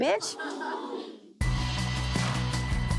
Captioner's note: audience gasps; dramatic music